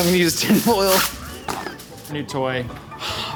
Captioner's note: tinfoil tearing